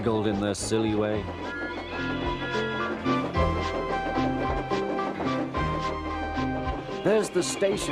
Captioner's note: Thomas whistles again, still braking hard